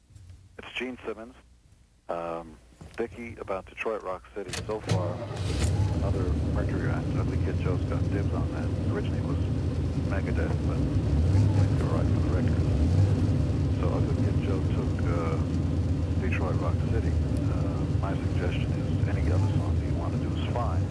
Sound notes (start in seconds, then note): 4.4 engine revving; 9.7 engine idles